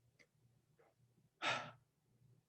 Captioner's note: sighs